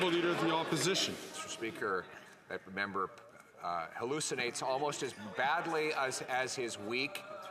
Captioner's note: some Applause